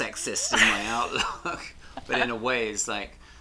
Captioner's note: chuckles